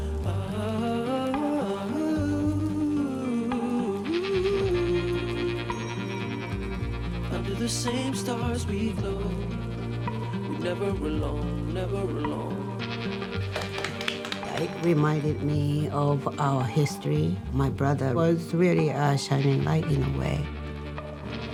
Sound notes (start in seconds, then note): 13.4 women clapping